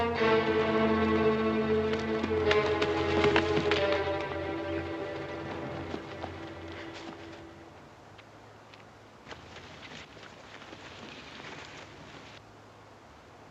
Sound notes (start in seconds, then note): none